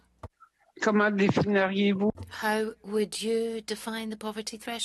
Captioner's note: speaking French